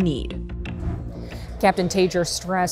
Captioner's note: air whooshes